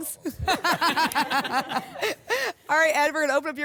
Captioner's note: laughter